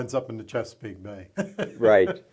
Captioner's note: chuckles